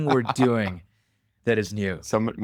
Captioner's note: laughs